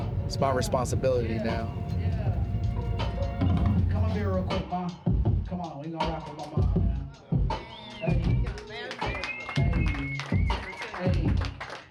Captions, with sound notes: It's my responsibility now. Come on here real quick, mom. Come on, we gonna rap up on my own. [ AUDIENCE CLAPS ] [ CROWD WHISTLES ]